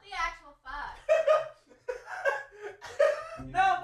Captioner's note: awkward laughter intensifies